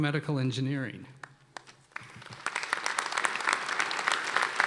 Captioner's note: applause